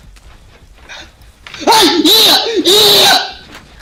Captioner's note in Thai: เ-ี้ย Ear-rape